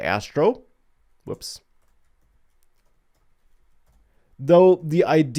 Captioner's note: keyboard clicking